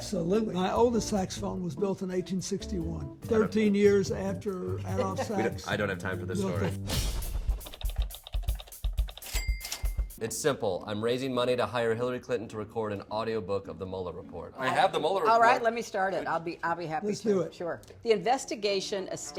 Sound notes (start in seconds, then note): 9.2 clicking and dinging